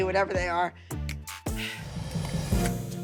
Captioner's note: sighs